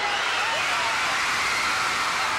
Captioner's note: applause